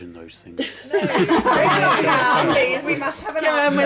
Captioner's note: laughing